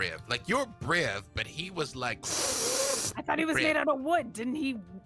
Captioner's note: snorting